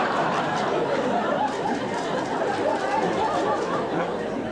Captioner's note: audience laughing